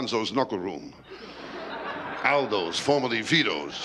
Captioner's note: laughter